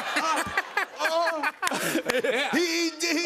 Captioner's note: laughter; stuttering